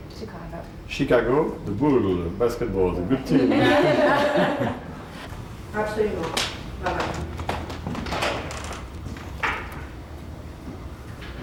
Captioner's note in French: rires